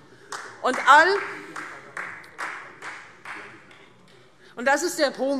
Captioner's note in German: Beifall Freie Demokraten